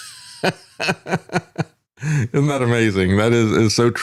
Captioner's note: laughs